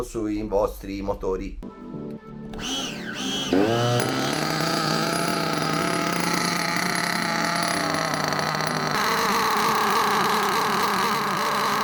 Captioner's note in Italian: engine sound